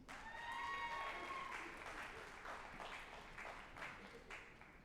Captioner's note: group applauding and cheering